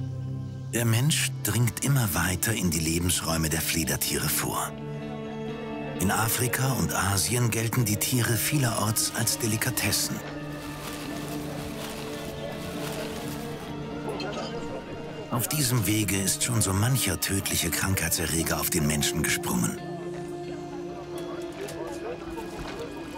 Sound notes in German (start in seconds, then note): 13.1 Marktgeräusche